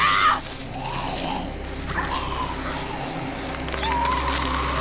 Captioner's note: zombie snarling; Betty screaming